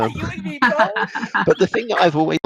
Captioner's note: laughs